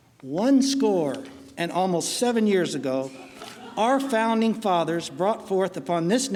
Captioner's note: laughing